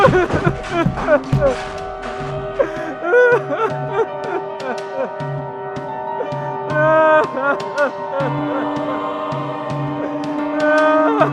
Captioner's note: screaming, clatter; sobbing